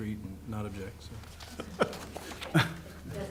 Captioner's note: laughter